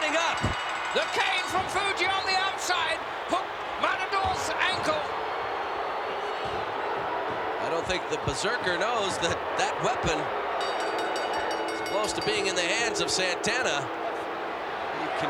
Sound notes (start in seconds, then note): 0.0 bell rings; 5.6 crowd boos; 10.4 bell rings